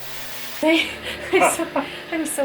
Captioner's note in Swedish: Skratt